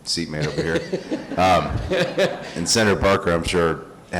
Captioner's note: crowd laughing